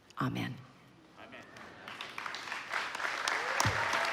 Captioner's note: applause